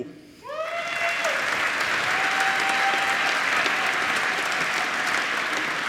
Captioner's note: applause